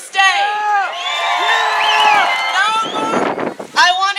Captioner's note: cheering